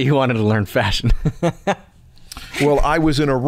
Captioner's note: chuckle